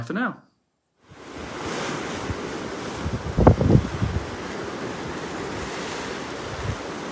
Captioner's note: waves and wind